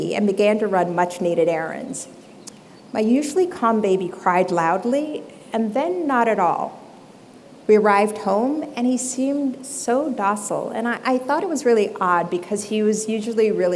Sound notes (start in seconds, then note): none